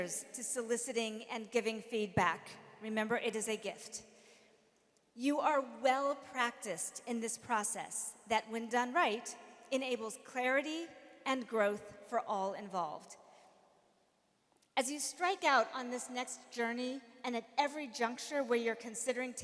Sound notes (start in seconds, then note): none